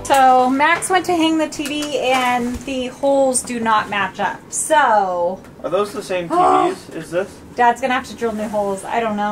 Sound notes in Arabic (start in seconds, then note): 6.2 آهات